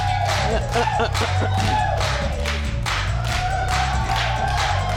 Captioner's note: clears throat